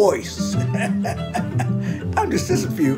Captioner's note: chuckling